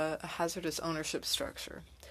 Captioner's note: speaking French